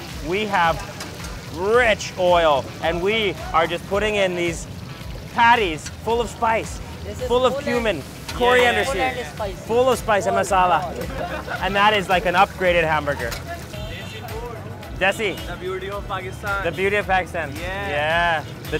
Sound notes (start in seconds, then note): 15.1 speaks in foreign language